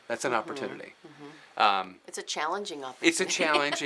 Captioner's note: laughs